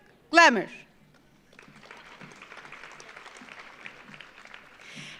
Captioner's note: audience applauds